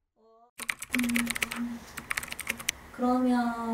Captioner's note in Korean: 타자 소리